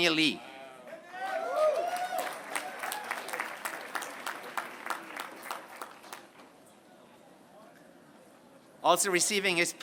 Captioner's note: applause